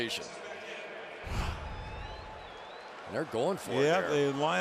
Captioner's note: pa announcement